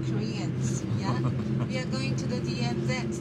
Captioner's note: journalist chuckles